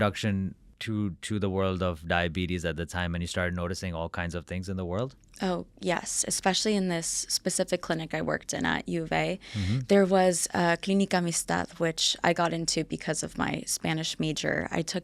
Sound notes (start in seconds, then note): 10.4 speaking in a foreign language